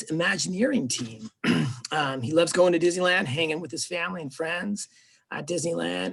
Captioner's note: clears throat